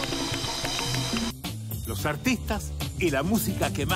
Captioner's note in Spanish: Aplausos y aclamaciones